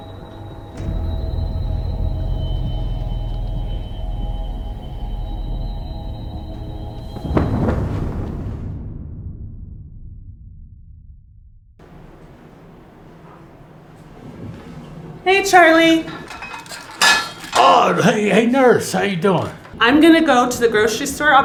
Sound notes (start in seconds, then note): 0.2 suspenseful music continues; 6.8 air whooshing